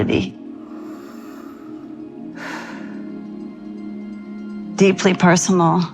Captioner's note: breathing